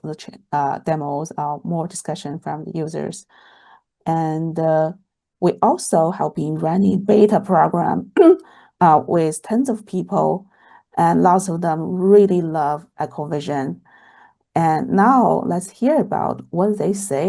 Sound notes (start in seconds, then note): 7.8 clears throat